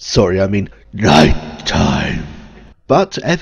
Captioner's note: booming, echoed voice